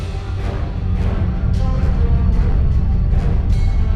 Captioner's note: humming